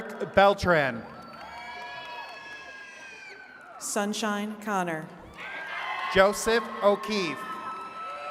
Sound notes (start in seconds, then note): 1.5 attendees cheering and clapping; 5.2 attendees cheering and clapping